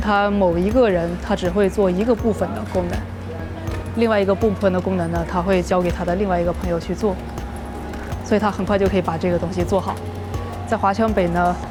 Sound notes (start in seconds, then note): 4.8 speaking foreign language